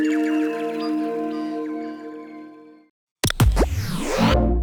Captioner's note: birdsong, mystical chiming; static buzzes, whooshing, warm tone